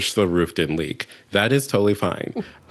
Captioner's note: laughter